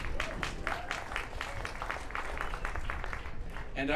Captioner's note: applause